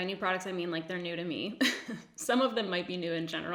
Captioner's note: giggles